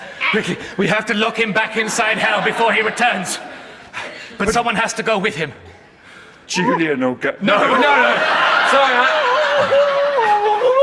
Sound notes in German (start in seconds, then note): 8.0 gedämpfter Protest; 9.1 gedämpftes Sprechen